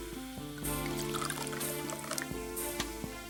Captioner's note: wine dripping sound